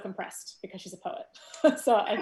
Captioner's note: loud laughs